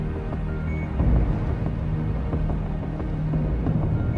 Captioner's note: device beeping